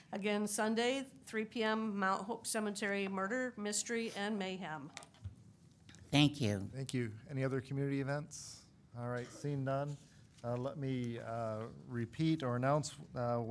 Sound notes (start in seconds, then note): none